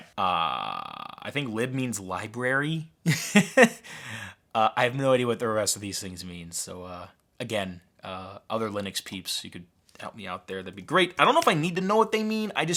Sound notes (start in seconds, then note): 2.6 laughs